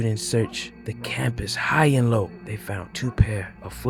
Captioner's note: distant dog barks